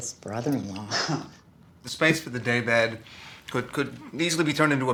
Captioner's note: chuckles